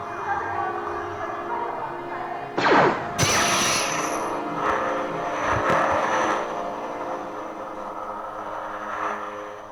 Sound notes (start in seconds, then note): 2.6 blaster shot; 2.6 Lightsaber ignites; 6.7 breathing heavily